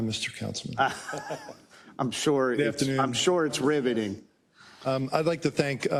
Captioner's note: laugh